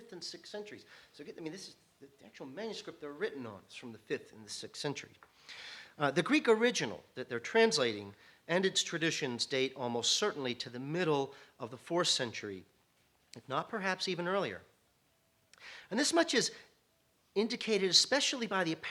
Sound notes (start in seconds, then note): none